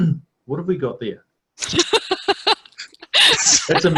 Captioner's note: laughing